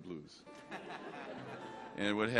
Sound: audience laughs

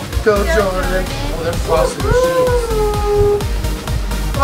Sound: cheering

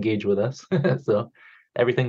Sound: chuckles

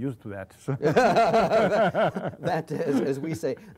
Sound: laughter

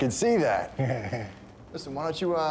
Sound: chuckles

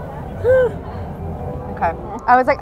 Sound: gasps

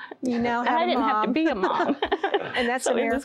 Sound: laughter

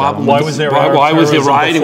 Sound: contestants arguing

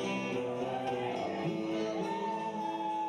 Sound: audience cheering

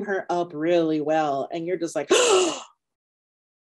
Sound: gasping

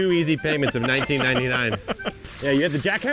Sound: laughs; water splashing; cash register dings

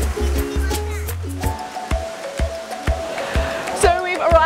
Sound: upbeat music; kids chatting

